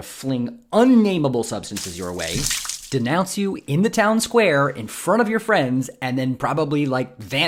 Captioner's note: splat